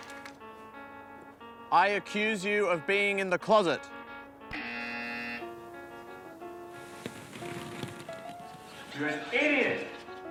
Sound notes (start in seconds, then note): 4.5 buzzer